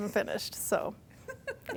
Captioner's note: laughing